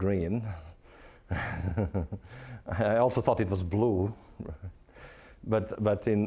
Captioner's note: chuckling